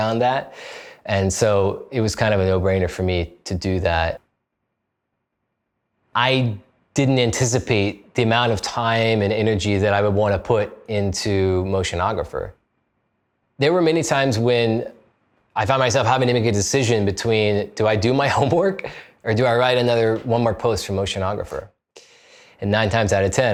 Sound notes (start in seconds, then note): 18.4 chuckles